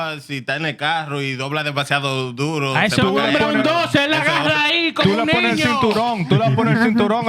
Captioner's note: speaking Spanish